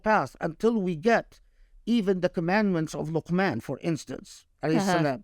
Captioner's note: speaking Arabic